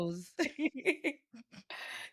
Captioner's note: laughing